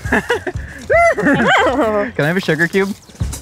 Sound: neighing horse

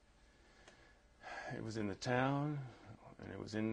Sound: sighs

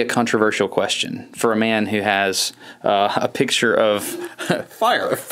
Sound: laughs

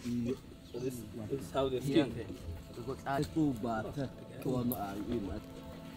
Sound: men speaking foreign language

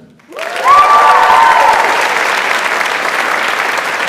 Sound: audience applauds

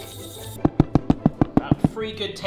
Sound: electric whisk whisking; knocking icing sugar tub

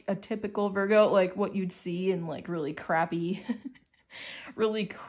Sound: chuckles

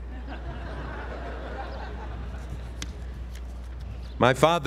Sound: laugh

